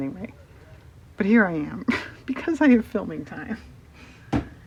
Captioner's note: laughs